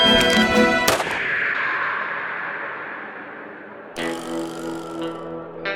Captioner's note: guns fire; timer beeps